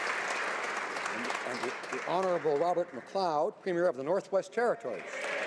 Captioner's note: applause